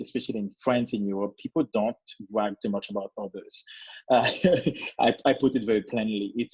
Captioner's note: laughs